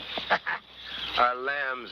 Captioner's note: chuckles